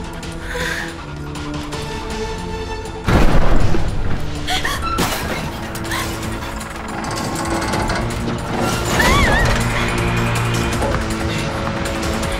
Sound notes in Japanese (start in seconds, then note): 3.0 大きな物音; 8.9 理恵の悲鳴